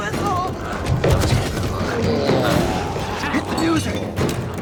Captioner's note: dramatic music continues; glowzies growling